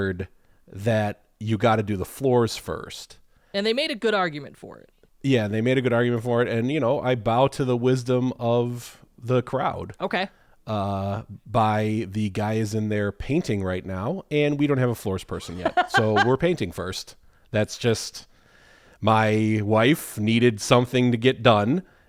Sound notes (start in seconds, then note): 15.4 laughs